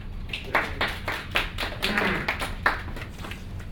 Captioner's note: applauding